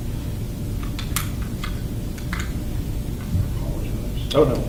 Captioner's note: mechanical clicking